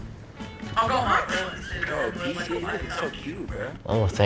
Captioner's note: gameplay Sound